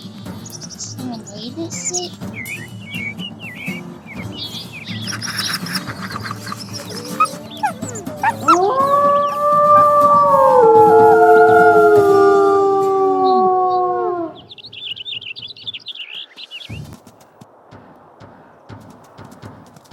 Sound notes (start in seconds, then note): 5.0 howls; 15.3 coyote Screaming Sounds